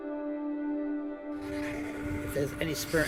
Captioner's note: continuous crackling sound of the spirit box is heard